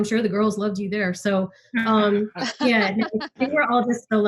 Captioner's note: laughs